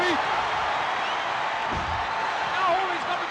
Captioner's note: crowd cheering